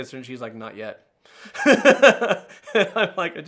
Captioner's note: laughing